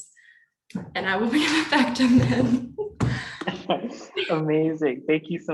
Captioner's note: laughing